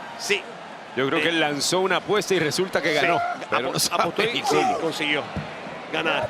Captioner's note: laugh